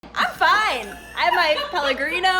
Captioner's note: laughing